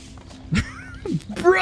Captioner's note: laughs